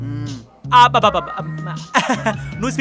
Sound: Swamy laughing

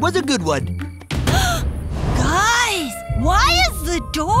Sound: gasps

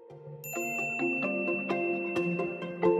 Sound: bell ring

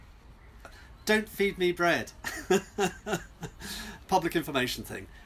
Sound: he laughs

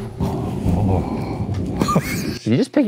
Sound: laughs

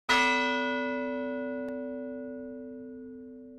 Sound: bell ringing

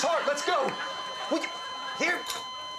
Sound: machine ringing

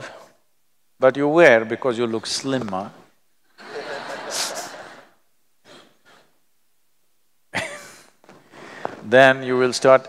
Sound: laughter

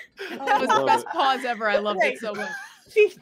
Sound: group laughing

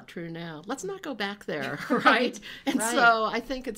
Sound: chuckles

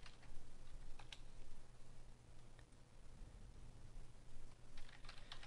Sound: typing

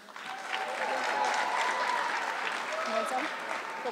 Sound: audience clapping

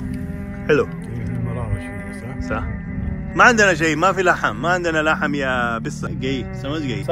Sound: speaking Arabic

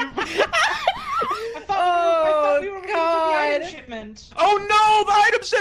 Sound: laughs

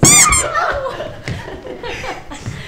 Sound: foreign language; squeak

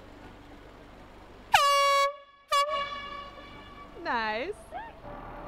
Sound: airhorn sounds

